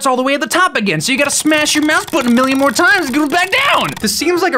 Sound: extremely incessant clicking

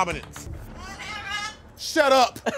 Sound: laughing

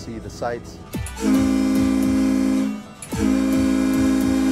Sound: ship horn blowing

